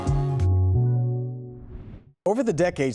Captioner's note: transition whooshing